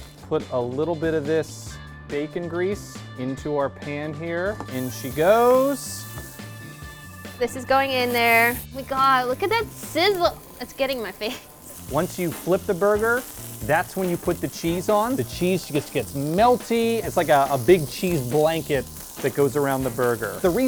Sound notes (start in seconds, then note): 6.0 meat sizzles